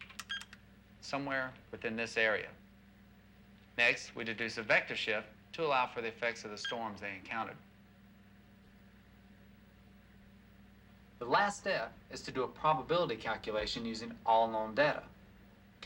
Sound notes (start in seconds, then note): none